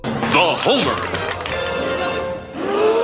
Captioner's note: audience clapping; audience gasping